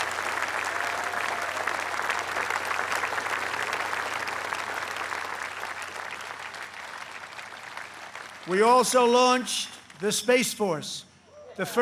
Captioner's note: applause